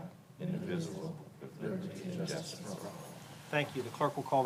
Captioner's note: pledge of allegiance recited